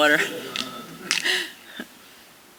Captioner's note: laughter